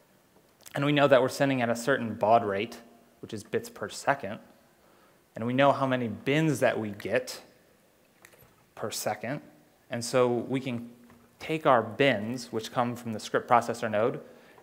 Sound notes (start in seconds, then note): none